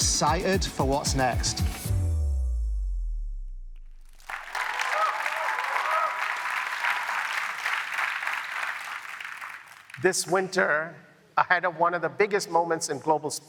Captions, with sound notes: we continue to transform retail every day. I'm excited for what's next. [APPLAUSE]